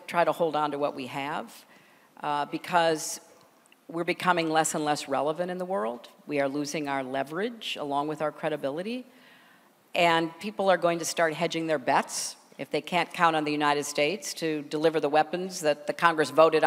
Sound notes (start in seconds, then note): none